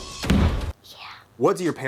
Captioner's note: whispers